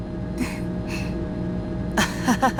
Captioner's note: awkward laugh; chuckle